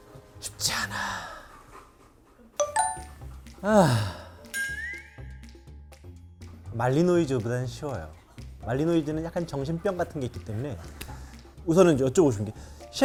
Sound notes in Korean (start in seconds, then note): 3.7 냅다 한숨